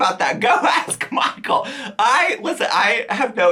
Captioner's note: laughs